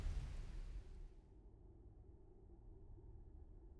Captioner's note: wind Whistling Softly